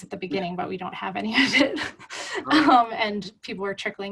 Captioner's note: laughs